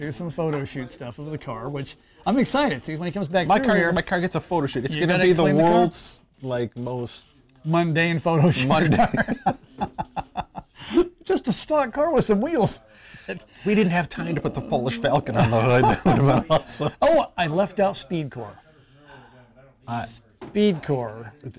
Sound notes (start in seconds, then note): 8.8 laughter